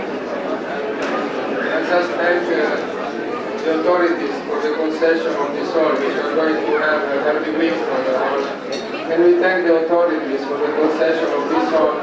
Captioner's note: italian